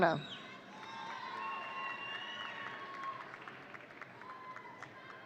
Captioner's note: audience cheering